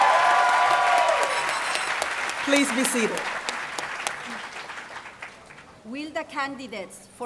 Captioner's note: applause